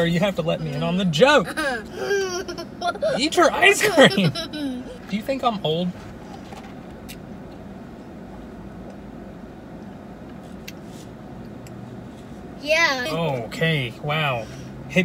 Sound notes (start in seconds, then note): 1.3 laughing